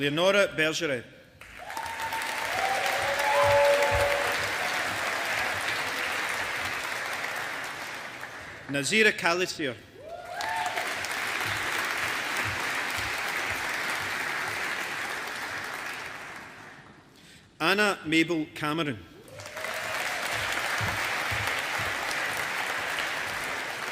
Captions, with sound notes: Leonore Bergeret. (AUDIENCE APPLAUDING) Nazire Calisir. (AUDIENCE APPLAUDING) Anna Mabel Cameron. (AUDIENCE APPLAUDING)